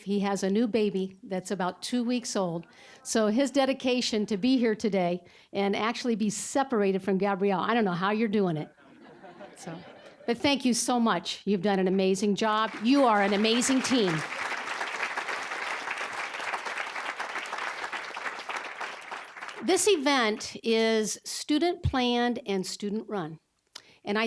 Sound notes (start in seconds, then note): 8.8 audience laughing; 14.9 applause